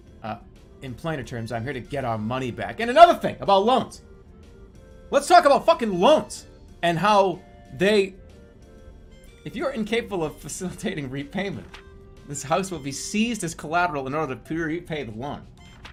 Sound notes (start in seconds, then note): none